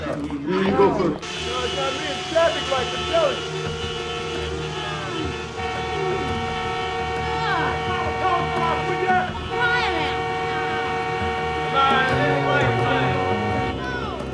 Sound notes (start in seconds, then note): 1.1 horns blaring; 7.8 disgruntled chatter